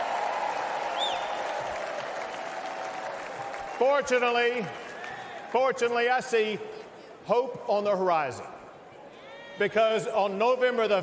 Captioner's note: cheers and applause